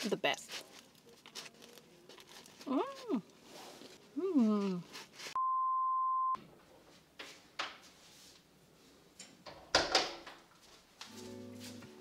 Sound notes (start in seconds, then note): 5.4 screen beeping; 9.5 door closing